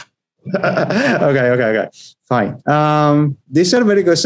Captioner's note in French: Rires